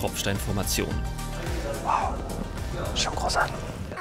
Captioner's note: whisper; spherical music